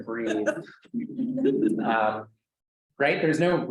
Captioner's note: student laughs